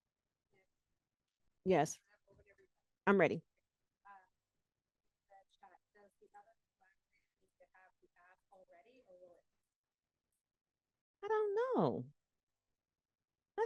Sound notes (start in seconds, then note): 6.8 breaking voice; 10.1 breaking voice